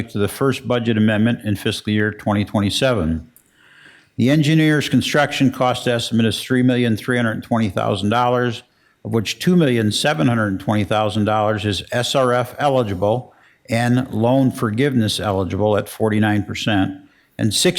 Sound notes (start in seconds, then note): none